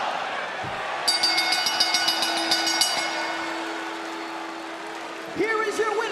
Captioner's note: bell rings